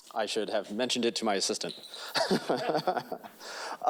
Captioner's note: laughing